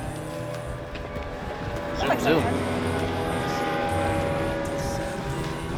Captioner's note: boat engine rumbling loudly